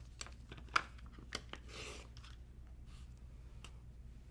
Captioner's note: paper cutting